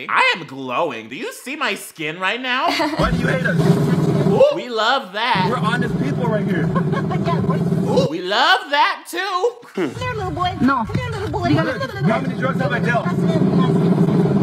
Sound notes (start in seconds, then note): 2.7 laughing transition; 5.5 chuckles; 9.7 wheeze